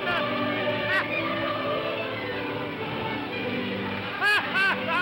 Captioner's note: music plays; waves crashing; sailor laughs loudly